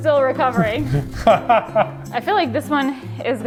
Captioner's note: laughing